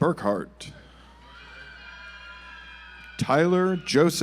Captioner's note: audience applauds